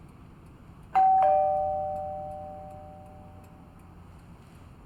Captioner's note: door bell rings